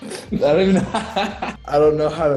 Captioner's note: Noah laughs